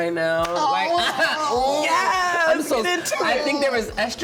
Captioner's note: laughing